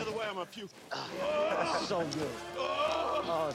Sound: groaning continues

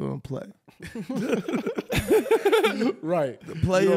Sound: laughing

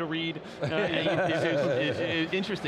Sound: laughing

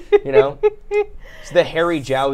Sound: giggles

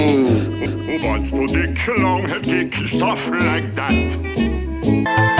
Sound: foreign language

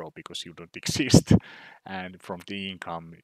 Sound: chuckles

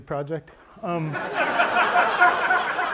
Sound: laughter

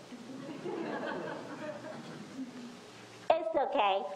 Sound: audience laughs

